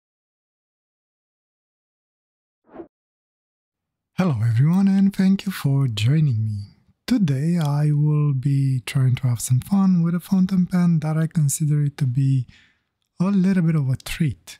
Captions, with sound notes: (air whooshing) Hello everyone and thank you for joining me. Today I will be trying to have some fun with a fountain pen that I consider it to be a little bit of a treat.